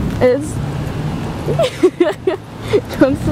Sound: laughs

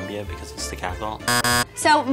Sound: buzzer buzzing

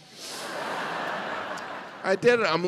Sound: audience laughing

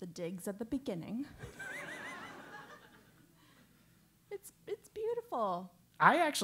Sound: laugh

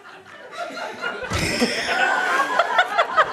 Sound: smack

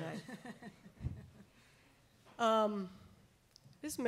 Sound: chuckling

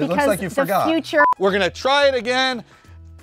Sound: beep

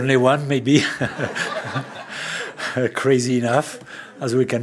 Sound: laughter

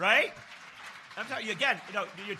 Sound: applause

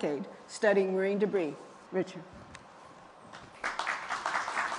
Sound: applause

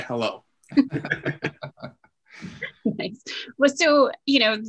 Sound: laughing

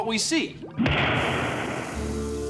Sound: bang

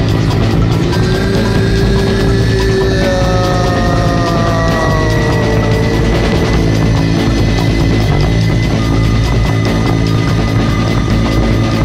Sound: moans

